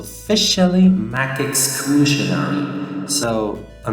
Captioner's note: music stops, voice with HUGE large room reverb